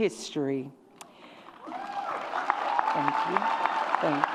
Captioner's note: audience cheers